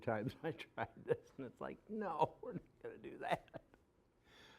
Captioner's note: laughing